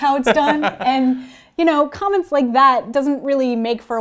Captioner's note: laugh